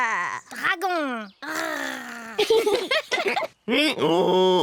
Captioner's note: roars; both giggle; brays